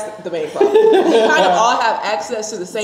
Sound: laughing

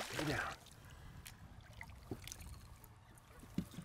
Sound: fish splashing

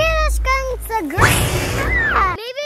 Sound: man hisses; girl screams

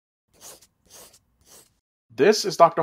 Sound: pencil scratching

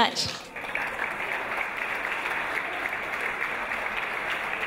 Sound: audience applause

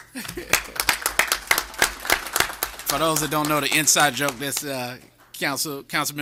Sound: laughter; applause

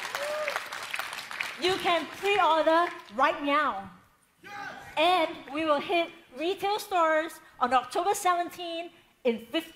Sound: cheering

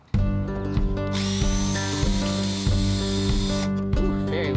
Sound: drilling machine humming

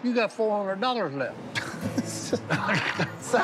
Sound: laughs

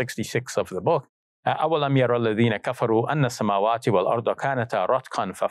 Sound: speaks in Arabic

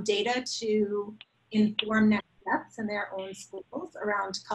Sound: microphone sputters

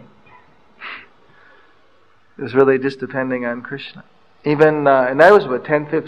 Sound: laughs

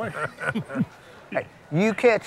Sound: chuckling

